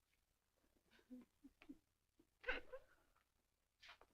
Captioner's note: sobbing